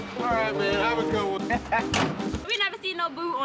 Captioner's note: laughter